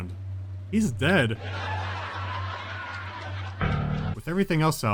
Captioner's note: laughing track